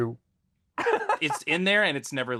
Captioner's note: laughing